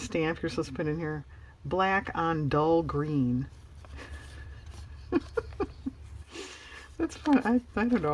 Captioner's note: laughs